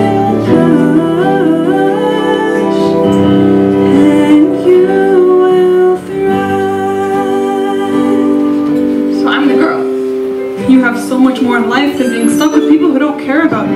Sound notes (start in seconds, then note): none